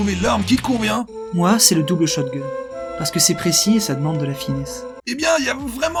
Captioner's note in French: Voix sentimentale